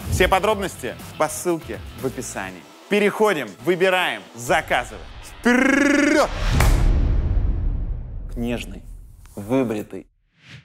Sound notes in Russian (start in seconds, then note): 6.5 хлопок